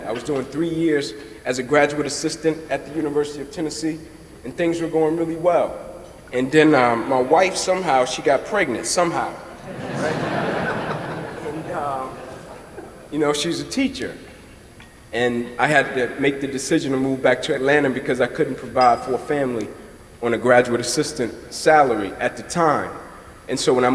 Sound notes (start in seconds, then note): 9.6 laughter